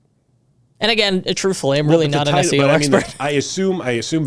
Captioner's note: chuckles